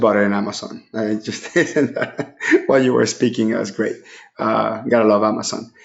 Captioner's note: laughing